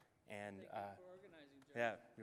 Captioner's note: voiceover